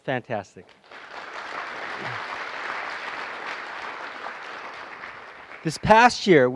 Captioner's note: applause